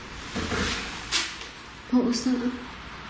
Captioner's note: tapping